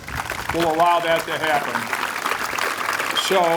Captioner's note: applause